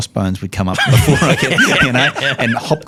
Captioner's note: all laughing